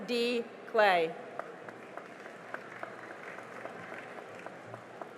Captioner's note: cheering and applause